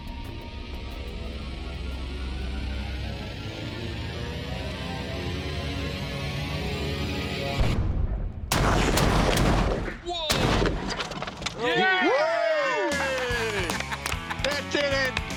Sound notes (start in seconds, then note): 7.6 explosions; 11.6 cheering